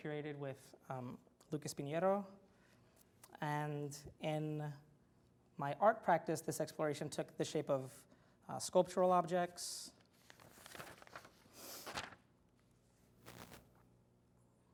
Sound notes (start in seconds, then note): none